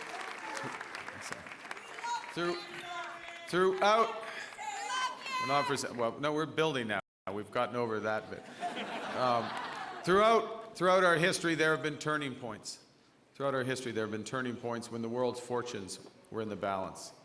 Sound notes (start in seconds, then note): 0.0 cheering; 8.4 laughter